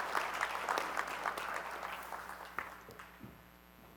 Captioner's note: applause